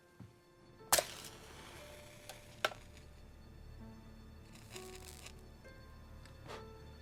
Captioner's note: somber music; match striking